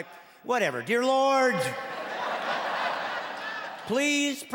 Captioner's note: laughing